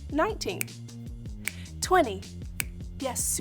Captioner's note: snapping; snaps